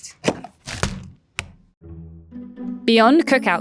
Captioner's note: packaging clattering; patties thudding